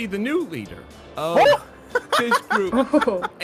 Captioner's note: confused noises from the others